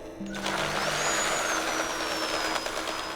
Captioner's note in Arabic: طنين أداة كهربائية